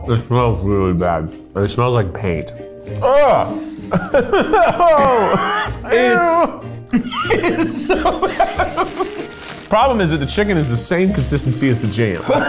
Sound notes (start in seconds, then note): 2.9 groans; 3.3 laughing; 12.2 both laughing